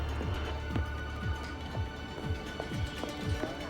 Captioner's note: phone rings